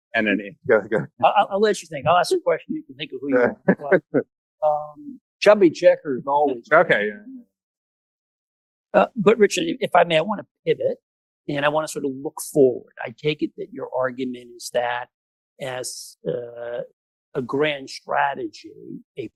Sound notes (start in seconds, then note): 6.7 laughs